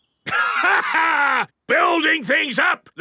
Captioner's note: laughs